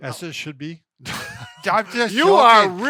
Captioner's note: laughs